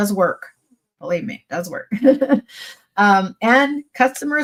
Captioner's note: chuckles